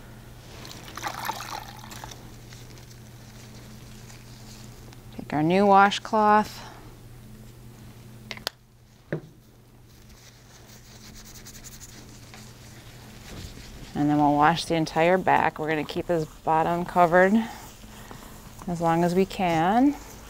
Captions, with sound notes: (water splashing) Take our new washcloth and then we'll wash the entire back. We're gonna keep his bottom covered as long as we can